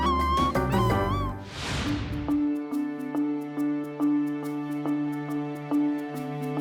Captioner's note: upbeat music; frame whooshes